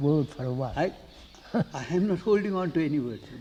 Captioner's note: laughs